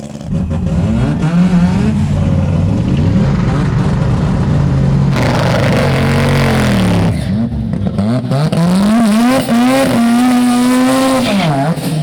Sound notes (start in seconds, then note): 1.1 cars revving; 5.8 engines roaring